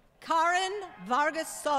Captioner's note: applause